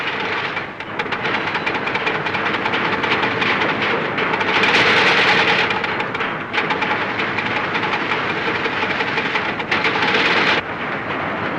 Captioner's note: clattering